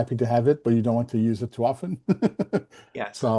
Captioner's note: laughs